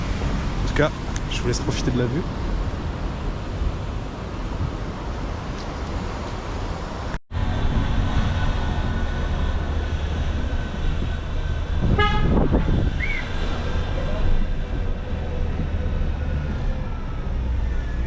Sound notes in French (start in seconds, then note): 6.6 Bruits de voiture